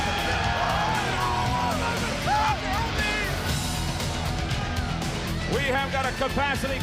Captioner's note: crowd cheering